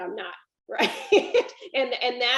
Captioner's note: laughs